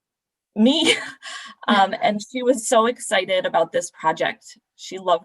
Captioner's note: laughter